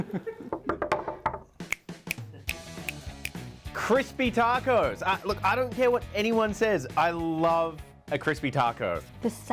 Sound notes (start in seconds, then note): 0.5 fingers knocking on table; 2.8 fingers snapping